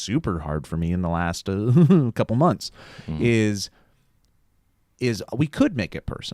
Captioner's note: laughs nervously